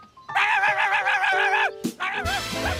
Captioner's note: barking